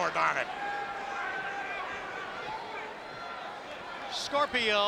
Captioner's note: spectators cheering